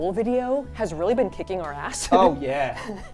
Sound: laughs

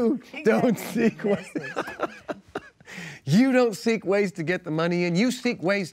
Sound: laughs

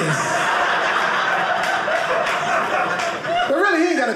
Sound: audience laughing

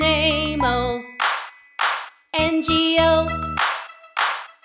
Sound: clap

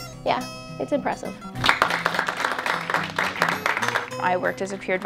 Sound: applause

